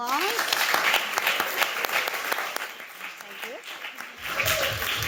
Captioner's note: audience applauding